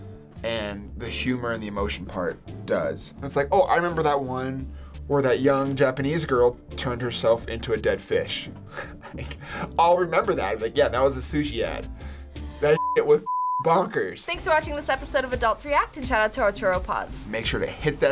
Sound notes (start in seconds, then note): 8.7 chuckles